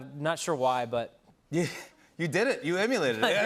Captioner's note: laughs